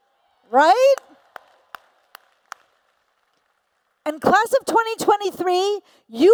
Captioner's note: applause